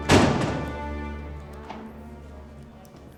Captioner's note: door closes